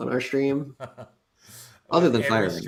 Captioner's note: laughs